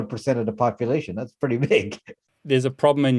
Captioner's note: laughs